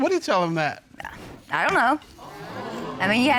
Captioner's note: audience exclaiming